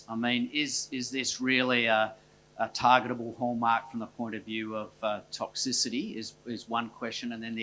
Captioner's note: none